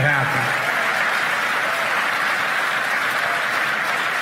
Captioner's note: cheers and applause